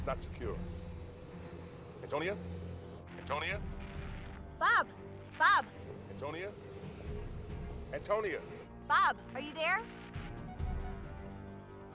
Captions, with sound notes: ON THIS LINE. IT'S NOT SECURE. ANTONIA? ANTONIA? [STATIC] BOB. BOB! ANTONIA? ANTONIA? BOB, ARE YOU THERE? [BEEPS]